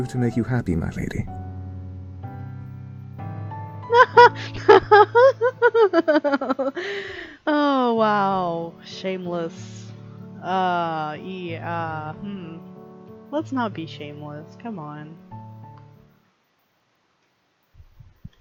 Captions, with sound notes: [laughs] Oh, wow, shameless. Uh... [thinking noises] Let's not be shameless, come on.